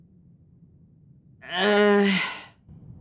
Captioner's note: grunting